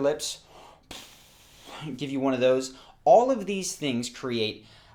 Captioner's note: exhales